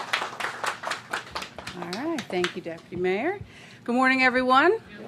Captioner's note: applause